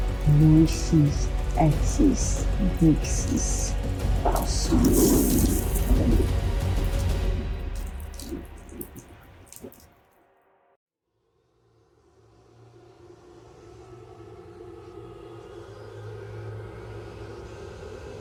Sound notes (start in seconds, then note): 0.5 speaking foreign language; 14.2 tense horror music swelling